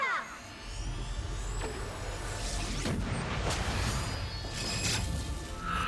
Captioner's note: zaps and explosions